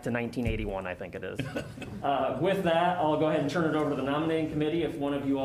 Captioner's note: laughter